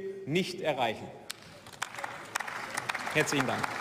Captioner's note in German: Beifall